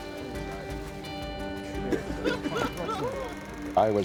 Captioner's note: laughter